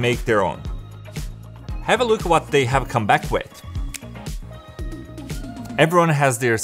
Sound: fingers snap

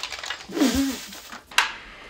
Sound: pffffff

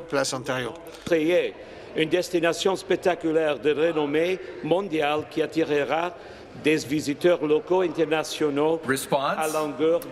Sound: speaking French

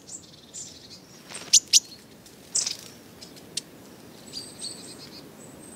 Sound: chirping

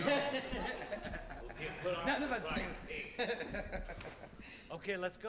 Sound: laughter

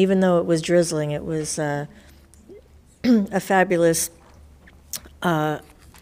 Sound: coughs

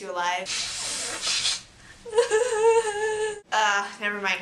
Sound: blowing noise, sobbing

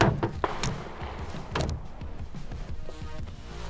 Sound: upbeat music; metal clangs

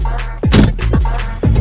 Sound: thud

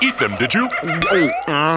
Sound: gulp

